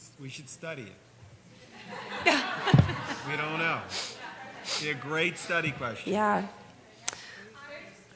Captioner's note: laughter